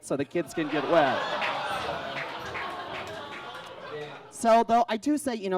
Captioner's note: audience groans and claps